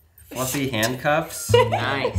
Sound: laughs

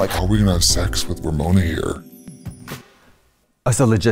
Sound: deep voice

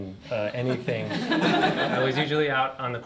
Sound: laughter

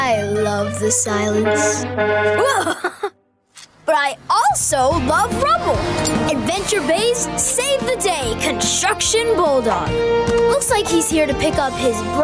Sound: beep Beep

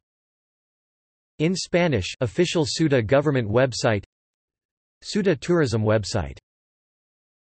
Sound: in Spanish

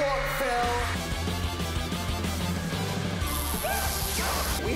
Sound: Dan and Phil yelling

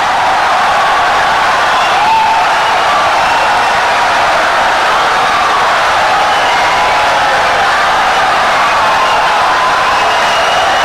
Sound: wild applause and cheering for 17 seconds

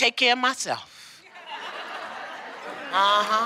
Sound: laughter

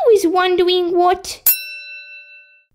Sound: ding!

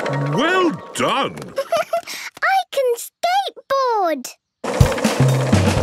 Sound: giggles

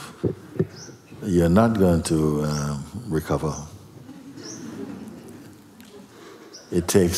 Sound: laughter

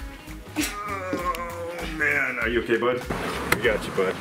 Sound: groans

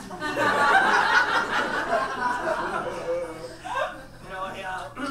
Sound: audience laughs

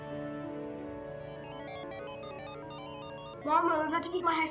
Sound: loud beeping

